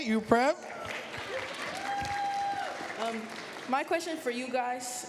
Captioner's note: cheers, applause